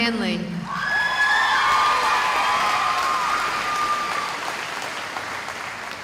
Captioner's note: cheering